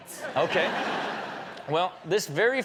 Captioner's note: audience laughs